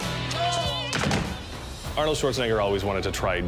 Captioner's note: rock music; thumping